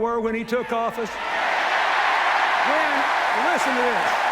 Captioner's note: cheers, applause